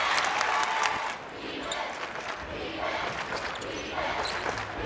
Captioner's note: crowd